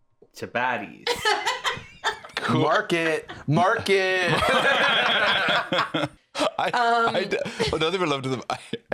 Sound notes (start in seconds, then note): 1.0 laughs; 4.8 all laughing